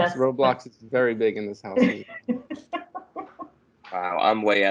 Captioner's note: laughter